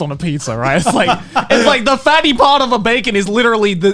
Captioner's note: chuckling